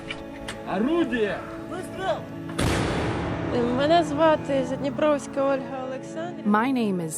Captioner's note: explosions; speaking Ukrainian